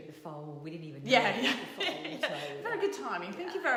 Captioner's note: laughs